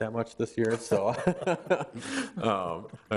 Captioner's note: everyone laughs